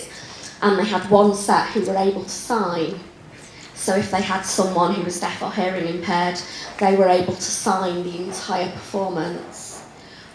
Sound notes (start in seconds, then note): none